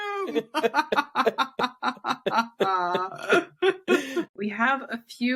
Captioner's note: laughs